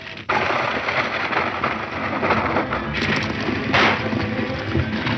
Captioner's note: horses galloping; shot fires